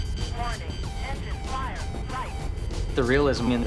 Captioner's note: alarm blaring